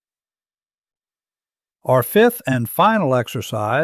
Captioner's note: pause